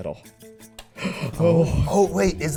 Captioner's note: tooth clicking; inhaling